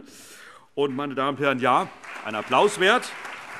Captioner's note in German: Allgemeiner Beifall